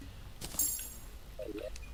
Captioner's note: pling!